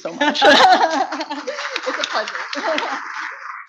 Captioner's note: both laugh; audience claps; laughs